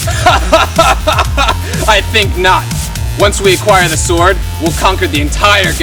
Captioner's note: laughs